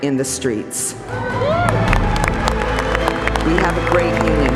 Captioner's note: acclamations et applaudissements bruyants